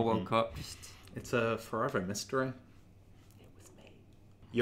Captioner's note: whispers